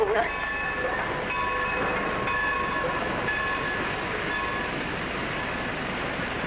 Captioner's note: train rumbling; bell tolling